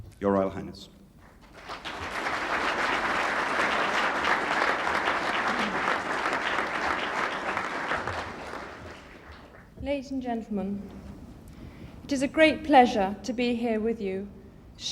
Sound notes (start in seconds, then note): 2.8 audience clapping